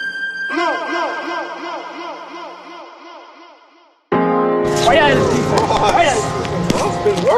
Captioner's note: echoing